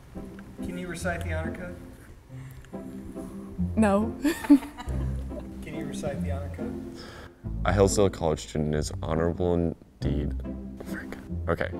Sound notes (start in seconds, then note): 4.2 laughter